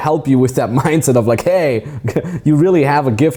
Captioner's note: chuckles